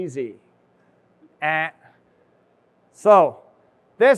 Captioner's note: imitates buzzer buzzing